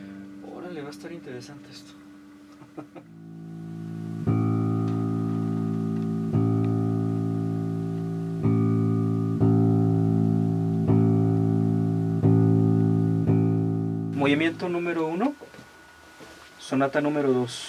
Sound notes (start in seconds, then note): 2.6 laughs; 6.3 tuning